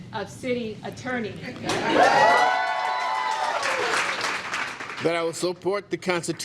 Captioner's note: cheers and applause